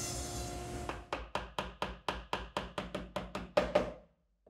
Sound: mallet taps

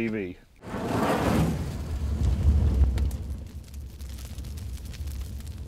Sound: fire crackling

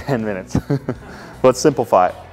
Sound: chuckles

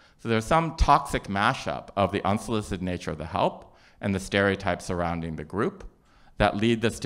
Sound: none

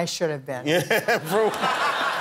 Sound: laughter

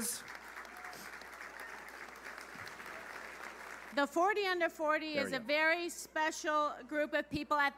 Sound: applause

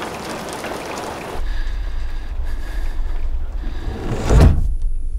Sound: breathing heavily

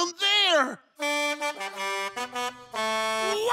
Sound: honking

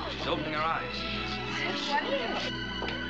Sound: chattering

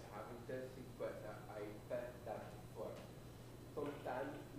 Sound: student speaking faintly

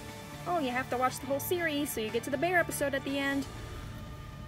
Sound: nasally voice

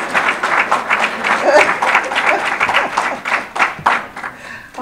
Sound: audience applause

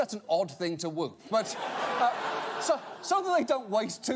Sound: audience laughter

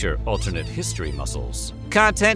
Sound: squeaking

